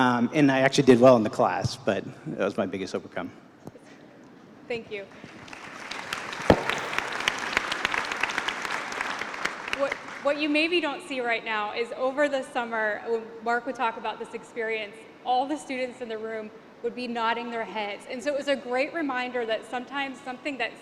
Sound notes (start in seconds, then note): 5.3 applause